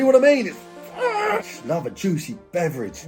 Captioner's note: growling